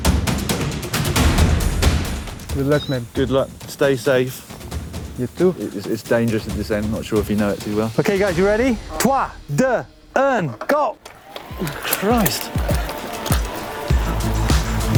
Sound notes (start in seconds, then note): 9.1 counting down in French; 11.5 fast dramatic music